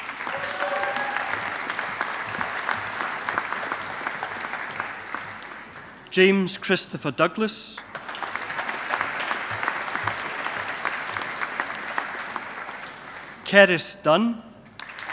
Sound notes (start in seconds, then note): 0.0 audience applauding; 7.8 audience applauding